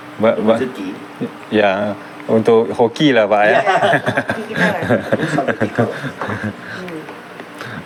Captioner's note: laughs